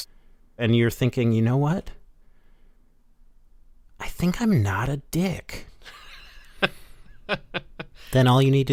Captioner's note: laughter